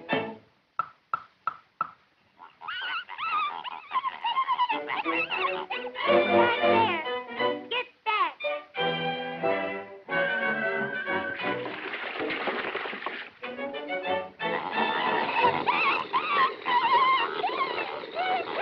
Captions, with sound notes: [squealing] Get back there. Get back. [squealing]